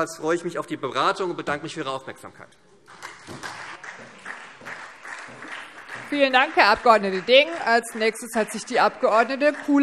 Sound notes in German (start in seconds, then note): 2.9 Beifall SPD